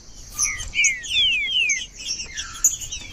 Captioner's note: trinca ferro cantando